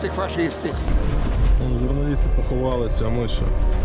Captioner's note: explosions heard in proximity